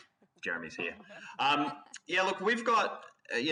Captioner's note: panelists chuckles